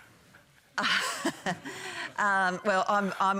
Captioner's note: laughs